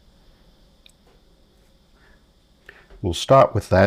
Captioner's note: silence